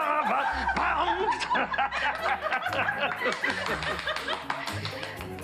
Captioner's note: laughs